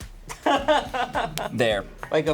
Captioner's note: crew member laughing